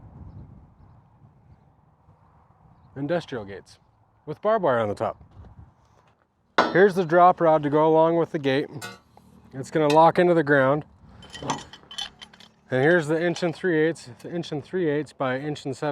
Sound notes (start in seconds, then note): none